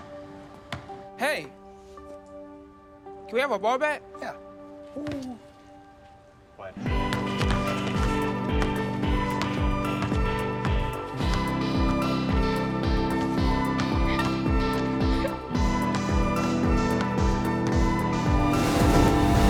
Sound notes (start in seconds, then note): 7.0 joyous music; 14.2 chuckles